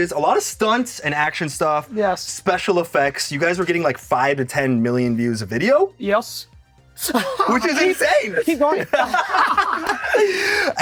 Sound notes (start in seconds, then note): 7.0 all laugh; 7.1 laughs